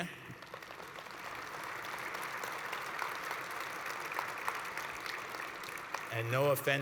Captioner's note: applause